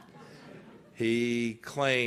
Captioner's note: laughter